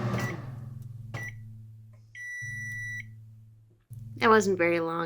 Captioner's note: microwave beeps